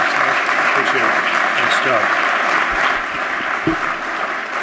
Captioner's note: applause